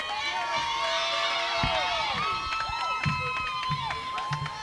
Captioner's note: cheering and clapping